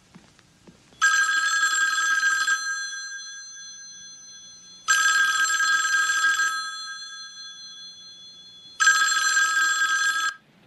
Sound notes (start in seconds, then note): 0.2 phone rings; 2.5 ring; 8.0 ring